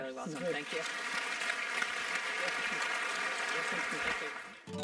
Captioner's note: applause